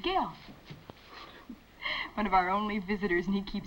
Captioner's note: chuckles